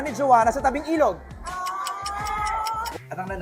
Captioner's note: clock ticking sfx